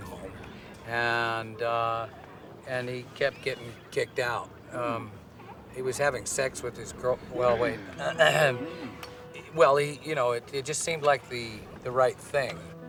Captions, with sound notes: uh, nursing home, and, uh-- and he kept getting kicked out. Um, he was having sex with his girl-- well, wait. (clears throat) Well, he-- you know, it just seemed like the-the right thing.